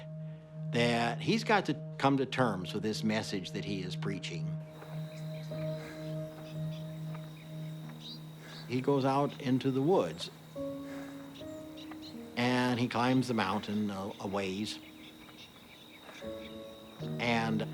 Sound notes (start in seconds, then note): 4.6 birds, crickets chirping, footsteps